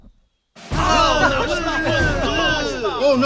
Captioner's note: shouting